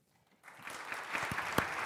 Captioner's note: applause